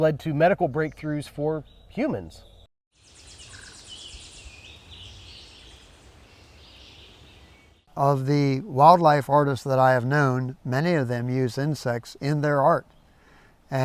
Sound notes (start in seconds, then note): 2.9 birds and insects chirping